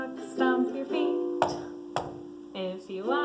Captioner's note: stomps feet